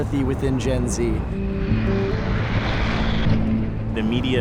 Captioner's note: planes whooshing